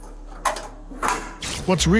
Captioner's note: door clicks closed